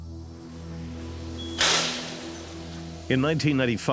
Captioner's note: door buzzes